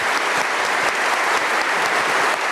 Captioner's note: applause